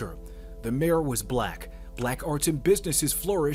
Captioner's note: none